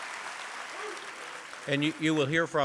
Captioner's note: applause